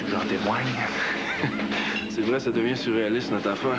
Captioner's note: Rires